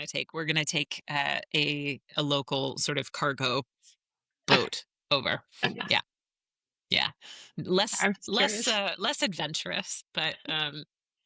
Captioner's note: laughs